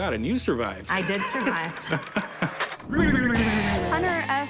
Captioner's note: laughs